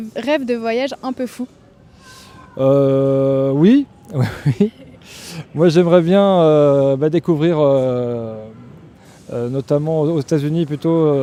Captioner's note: laughter